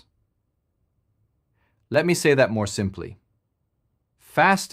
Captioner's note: pause